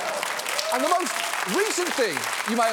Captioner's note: applause